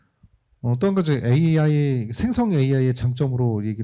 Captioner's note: speaking korean